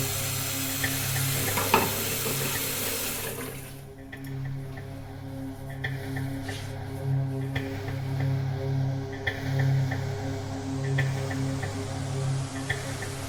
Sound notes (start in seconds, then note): 1.4 water sloshing continues; 6.0 eerie dramatic music continues